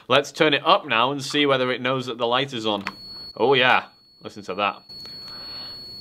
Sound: high pitched noise

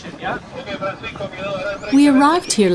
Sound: speaking in foreign language

